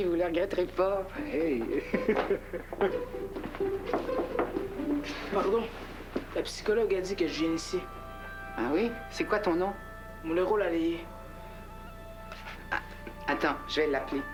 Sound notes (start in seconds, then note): 3.8 On frpe à la porte